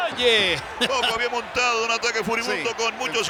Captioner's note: laugh